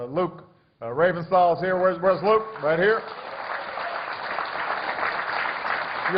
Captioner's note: applause